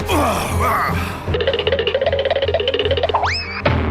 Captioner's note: cartoonish running noise; cartoonish DONK noise; cartoonish leaping noise